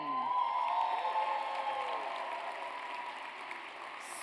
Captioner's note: audience cheers